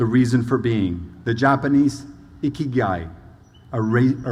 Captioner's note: speaking foreign language